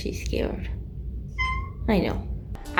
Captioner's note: meow